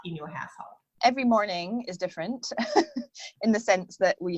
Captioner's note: laughs